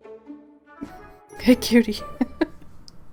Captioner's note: laughs